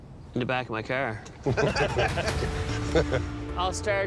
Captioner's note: all laughing